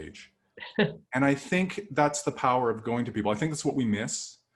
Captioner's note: laughter